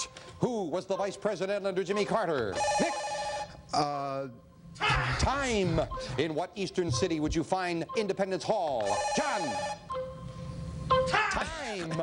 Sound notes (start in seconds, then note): 0.8 beeping; 5.6 beeping